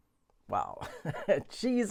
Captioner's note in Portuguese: risos